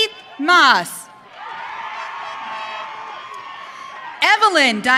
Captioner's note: audience cheering